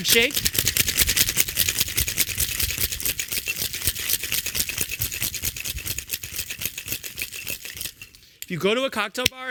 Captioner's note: shaking cocktail